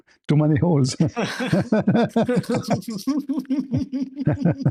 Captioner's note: laughter